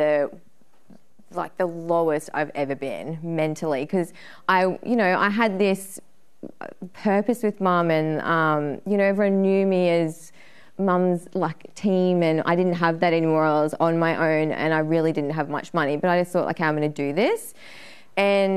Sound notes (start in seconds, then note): none